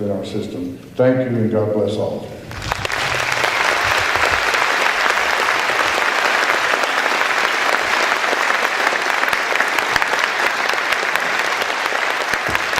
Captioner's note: applause